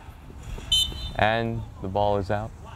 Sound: whistle blows

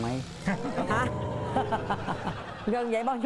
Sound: laughing

